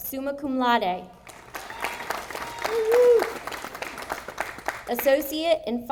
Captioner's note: audience applauding